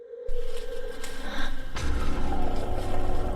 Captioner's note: wind ghost-howling; intense music